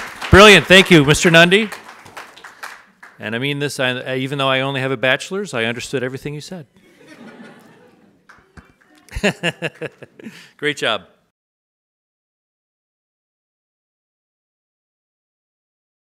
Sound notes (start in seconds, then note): 6.8 audience laughs; 9.0 laughs